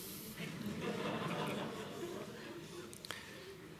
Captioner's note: laughter